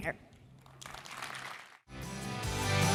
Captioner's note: applause